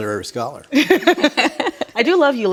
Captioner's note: ladies laughing